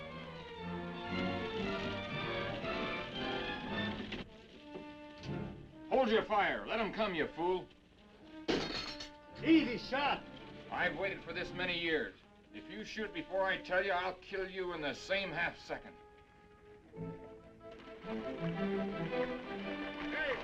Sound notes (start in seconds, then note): 8.5 glass breaking; 16.9 dramatic music; 19.0 horse hooves clopping